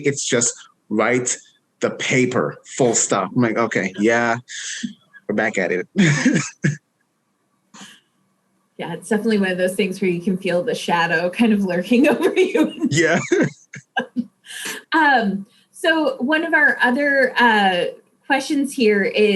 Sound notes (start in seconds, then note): 5.2 chuckles; 12.8 chuckles